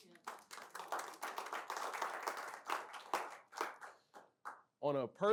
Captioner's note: applause